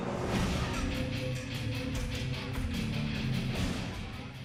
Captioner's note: crowd chatter